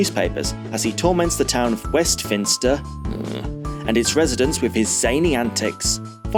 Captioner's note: groan